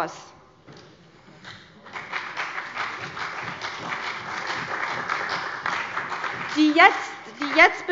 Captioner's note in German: Beifall bei der CDU und dem BÜNDNIS 90/DIE GRÜNEN